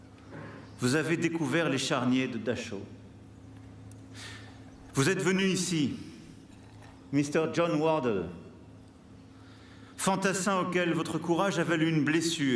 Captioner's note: speaking french